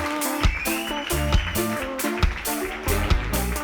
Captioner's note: audience applauds; audience whistles; upbeat music